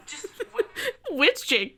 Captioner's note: laughing